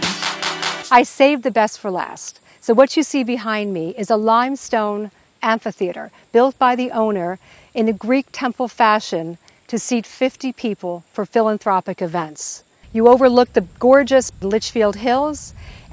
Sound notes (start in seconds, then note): 12.5 insects buzzing